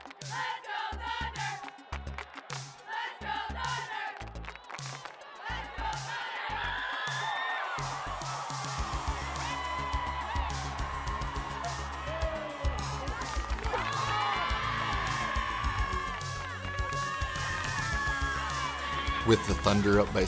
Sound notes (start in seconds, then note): 0.0 sound of cheering crowd; 2.8 chanting crowd, clapping; 15.3 more clapping cheering